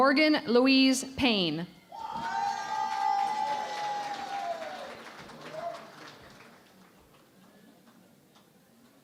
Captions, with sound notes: Morgan Louise Payne. [ Cheering and Applause ]